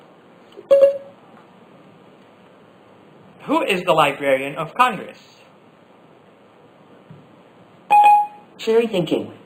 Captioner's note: Siri beep